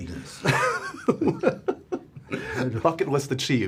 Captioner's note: laughs